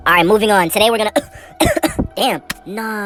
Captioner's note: cough